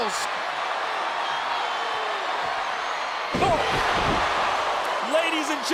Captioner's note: audience cheering